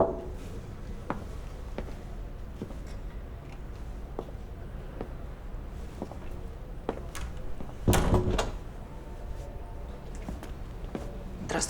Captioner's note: footsteps